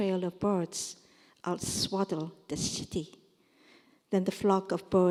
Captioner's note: korean